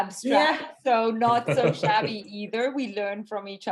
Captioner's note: laughing